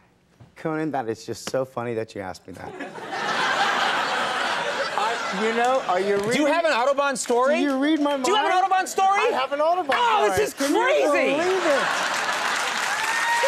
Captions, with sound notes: Conan, that is just so funny that you ask me that. (audience laughing) Do you have an autobahn story? Do you read my mind? Do you have an autobahn story? I have an autobahn story. Oh this is crazy! Can you believe it! (audience applauding)